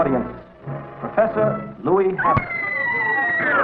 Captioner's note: scream